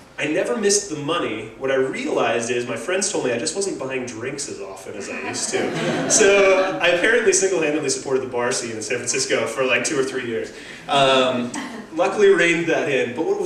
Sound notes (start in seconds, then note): 5.0 laugh